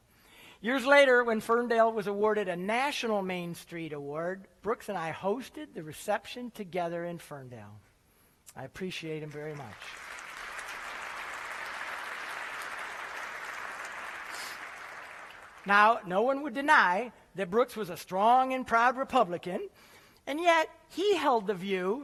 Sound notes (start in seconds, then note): 9.1 applause